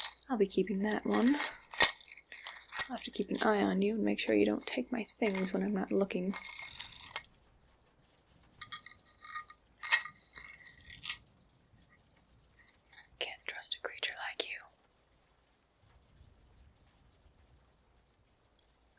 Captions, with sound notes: I'll be keeping that one! I'll have to keep an eye on you and make sure you don't take my things when I'm not looking! [jewelry clicking] [whispers] Can't trust a creature like you!